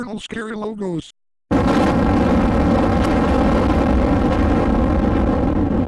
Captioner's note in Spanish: explosión